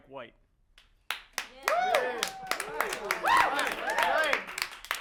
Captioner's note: all applauding